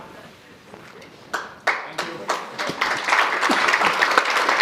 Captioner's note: audience applauds